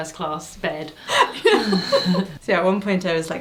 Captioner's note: both laughing